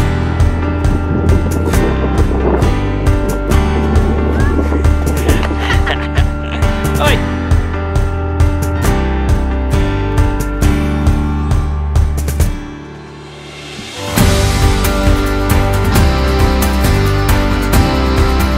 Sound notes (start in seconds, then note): 5.2 laughter; 10.1 motivational music; 15.3 inspirational music